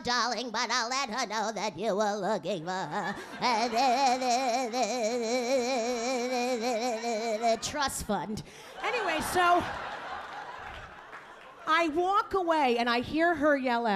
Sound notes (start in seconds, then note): 2.9 audience laughing; 8.7 audience laughing